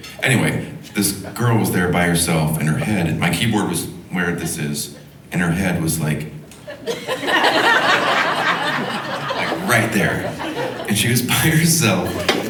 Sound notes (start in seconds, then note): 6.6 audience laughing